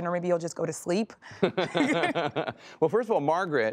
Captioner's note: laughter